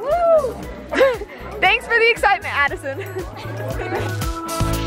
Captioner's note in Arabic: ضحكات خافتة; موسيقى مبهجة غير تقليدية